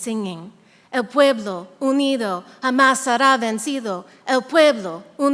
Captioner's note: speaking in a foreign language